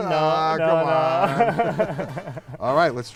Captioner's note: laughing